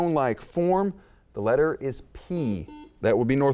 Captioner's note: buzzing